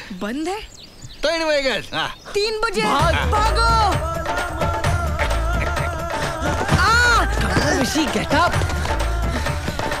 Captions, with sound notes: It is not working. - It's 3. It's 3. Run. - Run. (Groans) Vishy, get up.